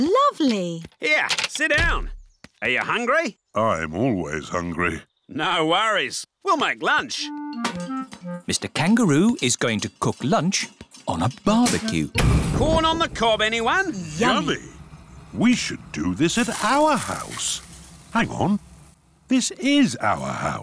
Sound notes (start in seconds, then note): none